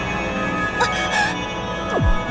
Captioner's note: gasp